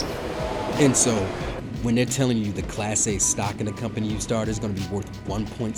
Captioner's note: voiceover